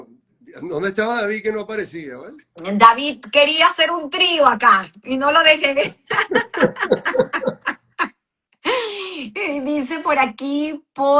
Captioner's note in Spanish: risas